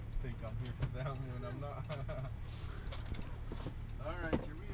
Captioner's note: joking and laughing